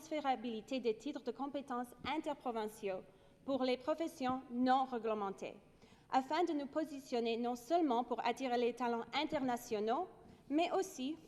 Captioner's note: speaking French